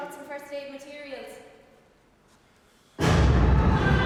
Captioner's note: explosion in the distance